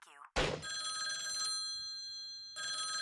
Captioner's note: ringing